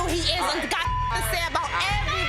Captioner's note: beep